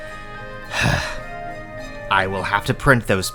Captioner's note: sigh